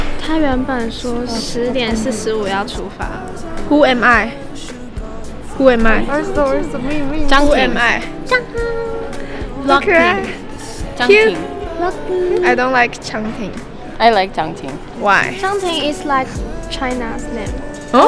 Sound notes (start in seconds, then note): 7.6 Korean